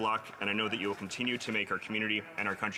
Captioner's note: reading from list